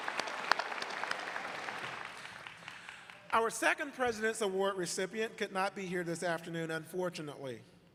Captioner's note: applause